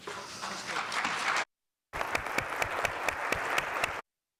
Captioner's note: audience applauds